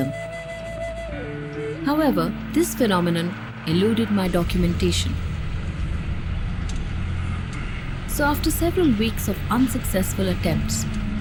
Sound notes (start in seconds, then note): 0.2 enigmatic music; 5.3 car engine revving